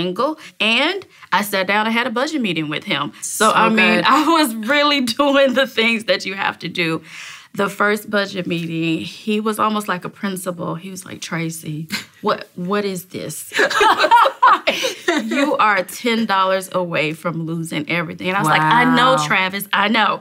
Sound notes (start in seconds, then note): 13.5 laughter